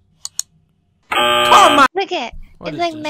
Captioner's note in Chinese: 嗡嗡聲